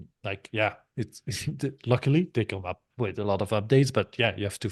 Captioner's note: chuckles